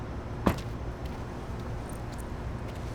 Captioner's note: car trunk closes